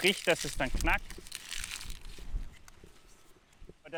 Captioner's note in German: knacken